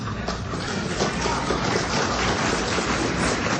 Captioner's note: audience applause